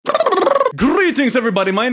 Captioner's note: mouth noises